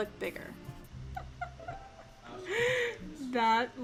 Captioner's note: laughs